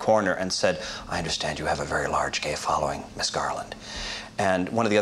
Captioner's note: sotto voice